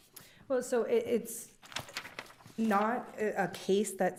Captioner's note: paper crinkling